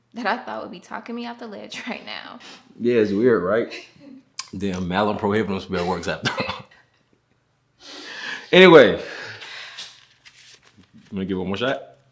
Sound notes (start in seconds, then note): 6.5 both giggle